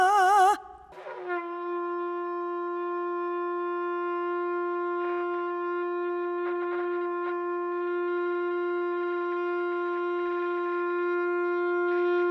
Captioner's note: singing; sustained shofar blast